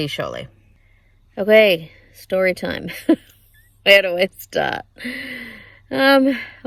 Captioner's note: laughs